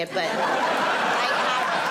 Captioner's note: audience laughing